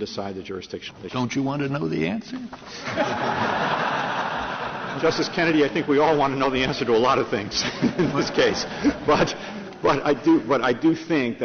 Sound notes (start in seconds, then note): 2.8 laughter